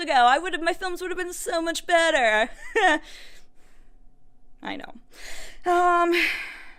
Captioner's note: facetious laugh